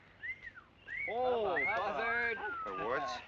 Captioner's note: cat calling